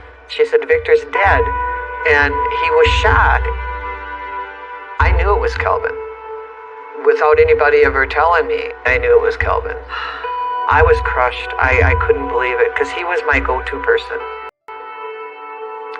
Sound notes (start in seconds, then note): 9.9 sighs heavily